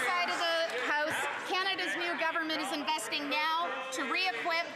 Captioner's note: some Applause